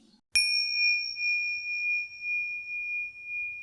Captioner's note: dinging